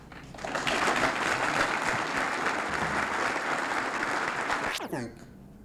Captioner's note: applause